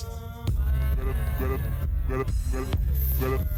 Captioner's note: bass beats; man shouts